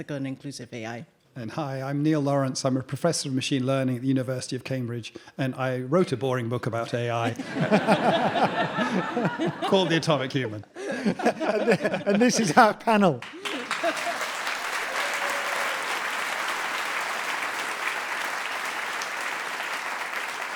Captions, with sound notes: ethical, and inclusive AI. - And hi, I'm Neil Lawrence. I'm a professor of machine learning at the University of Cambridge and I wrote a boring book about AI (audience laughing) called "The Atomic Human." - And this is our panel. (audience applauding) (audience cheering)